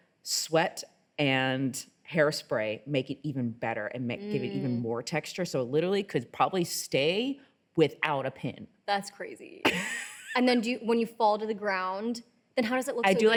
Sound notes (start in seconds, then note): 9.6 laughing